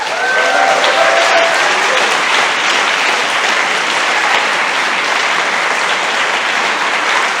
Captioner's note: applause and cheering